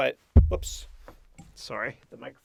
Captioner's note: thump